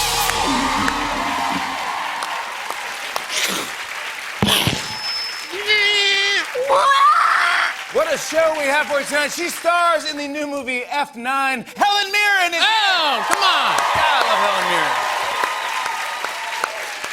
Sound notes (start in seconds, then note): 0.1 cheers and applause; 4.6 imitating crashing noises, screeches; 12.6 cheers and applause